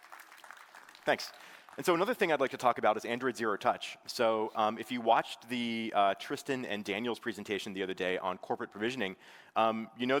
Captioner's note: applause